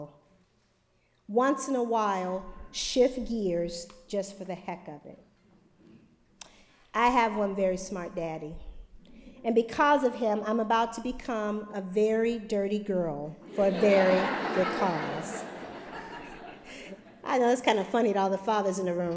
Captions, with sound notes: Once in a while, shift gears just for the heck of it. I have one very smart daddy, and because of him, I am about to become a very dirty girl for a very good cause. [LAUGHTER]